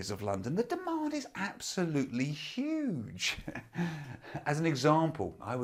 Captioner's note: laughs